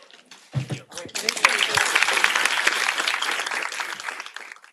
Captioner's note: applause